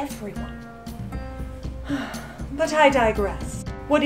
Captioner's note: sighs